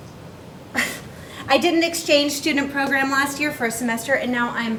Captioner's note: chuckles